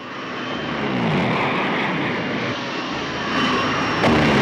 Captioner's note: zooming